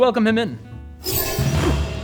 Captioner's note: whoosh!